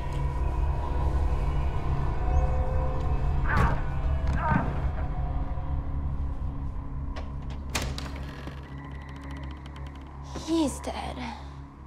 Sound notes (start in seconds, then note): 3.3 groaning; 3.6 thudding